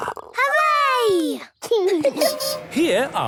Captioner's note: laughing